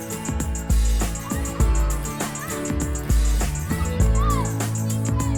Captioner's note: campers excitedly shouting